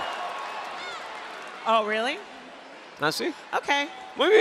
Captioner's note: applause